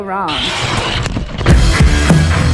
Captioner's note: crashing; upbeat music